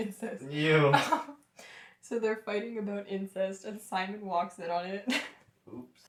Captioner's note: laughter; laughter